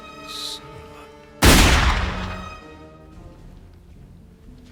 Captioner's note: gunshot